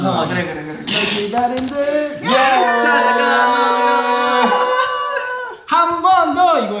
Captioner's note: scream but softly